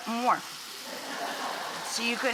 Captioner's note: audience laughing